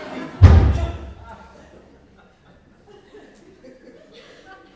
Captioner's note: door slams